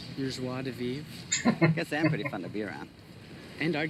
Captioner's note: chuckling